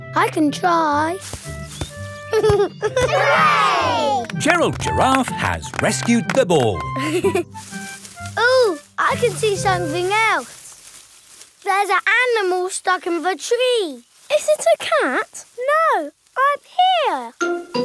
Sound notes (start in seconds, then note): 1.0 leaves rustle; 2.3 giggling; 7.2 leaves rustling